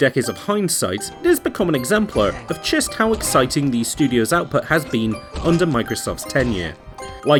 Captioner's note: combat hits, Monster Grunts